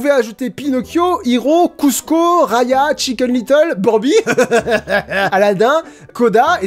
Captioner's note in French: mouahaha